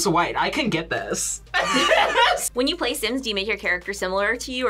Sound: laughs

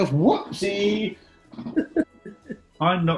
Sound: giggling

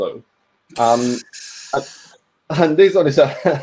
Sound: inhales deeply; laughs

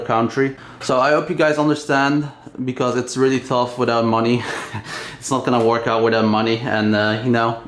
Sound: laughs

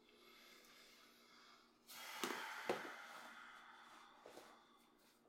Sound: sighs

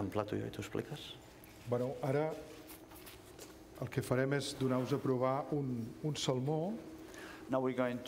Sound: speaking catalan; speaking catalan

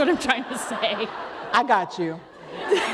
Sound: laughter

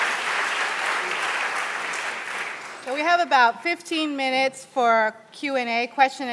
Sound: applause

